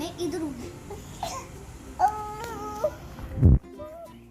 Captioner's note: baby sounds